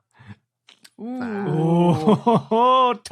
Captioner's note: others jeering